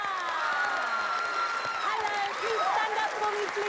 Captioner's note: cheers and applause